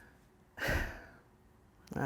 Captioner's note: sighs